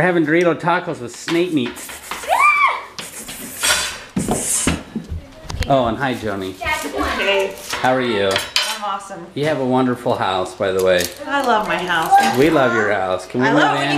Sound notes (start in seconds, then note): 2.2 screams; 4.4 snake hissing